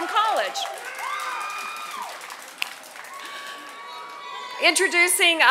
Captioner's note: applause